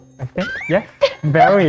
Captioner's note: giggles